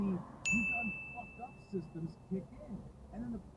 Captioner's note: ding